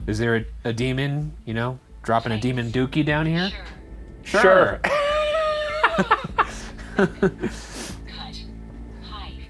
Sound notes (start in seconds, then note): 4.8 both laughing; 4.9 in Unison